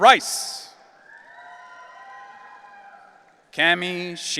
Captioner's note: audience cheering